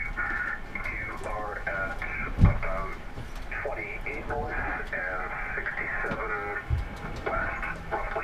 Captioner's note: voice on radio giving weather report